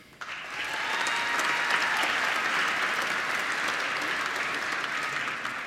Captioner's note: applause